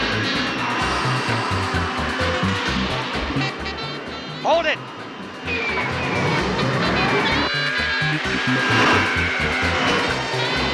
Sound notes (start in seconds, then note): 4.7 zooming; 7.7 funky beat music